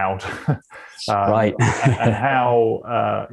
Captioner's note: chuckles